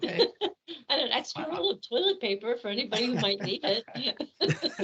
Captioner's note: laughing; laughing